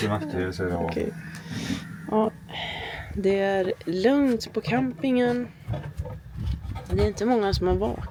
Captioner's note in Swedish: drar efter andan